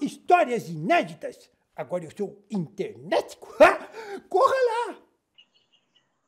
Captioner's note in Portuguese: riso